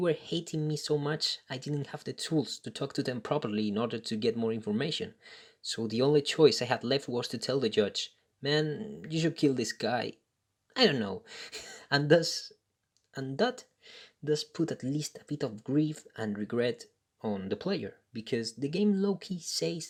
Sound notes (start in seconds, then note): 11.4 chuckles